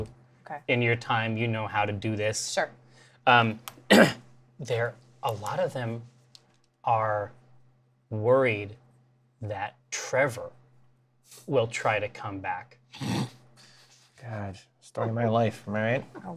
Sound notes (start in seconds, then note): 3.9 clears throat; 13.3 laughs